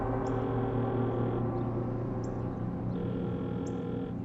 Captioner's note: phone ringing